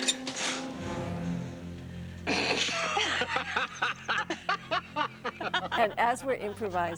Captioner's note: laughing